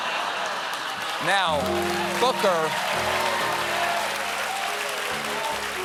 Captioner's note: laughter; cheers and applause; piano riff